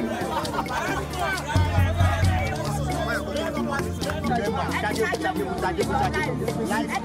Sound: all chattering; soft music continues

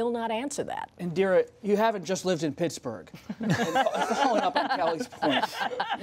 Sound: laughter

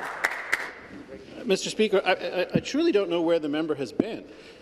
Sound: applause

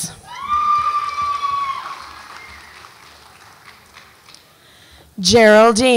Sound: audience applauds and cheers

